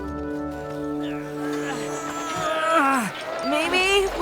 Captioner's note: grunting